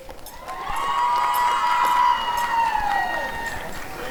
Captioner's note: applause and cheering